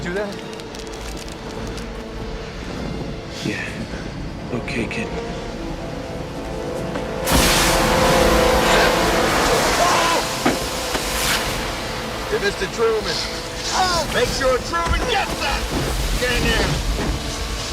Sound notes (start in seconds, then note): 7.2 air gushing; 10.0 man grunting